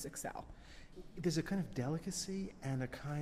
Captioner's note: voiceover